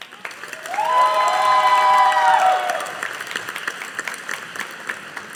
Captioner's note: audience applauding